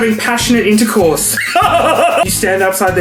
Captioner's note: laughs